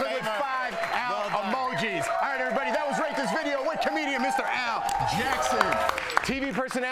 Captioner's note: cheering